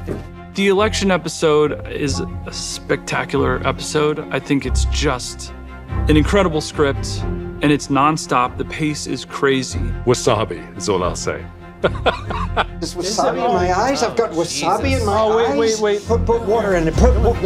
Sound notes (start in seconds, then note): 11.8 laughs